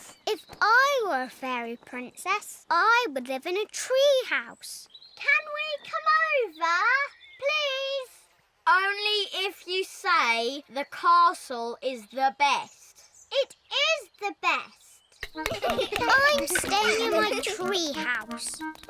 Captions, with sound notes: If I were a fairy princess, I would live in a tree house. Can we come over? Please! Only if you say, "The castle is the best." -It is the best! -(ALL LAUGH) I'm staying in my tree house.